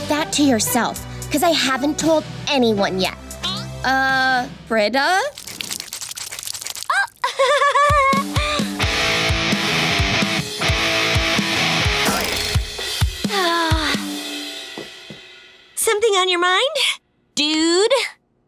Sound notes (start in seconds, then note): 6.9 chuckles; 12.0 sighing